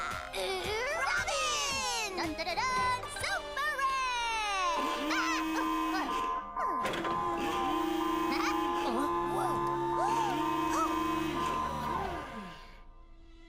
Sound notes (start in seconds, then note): 4.6 alarm blaring